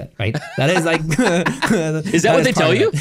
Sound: laughing

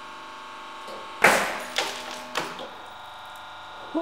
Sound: loud cracking sound

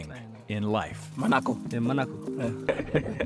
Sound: speaking foreign language; laughing

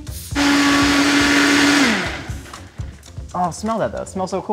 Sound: blender grinding

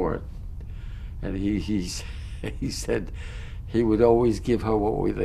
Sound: laughs

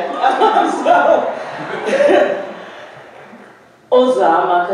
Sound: audience laughing

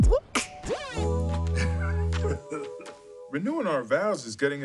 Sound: hip-hop music plays; laughs

